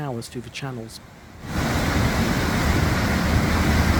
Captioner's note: sound of rushing water